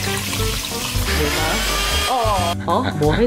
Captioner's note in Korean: 기계 돌아가는 소리